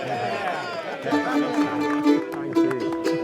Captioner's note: clapping and cheering